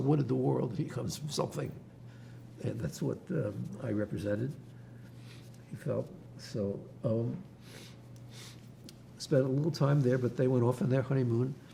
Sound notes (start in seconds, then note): 7.6 wiping nose; 8.2 sniffling